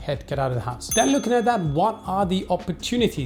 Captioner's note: bell dings